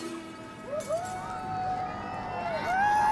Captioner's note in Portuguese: multidao grita